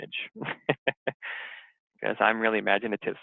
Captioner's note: laughs